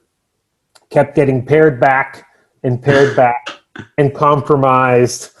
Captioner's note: chuckles